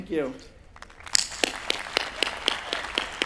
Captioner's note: applause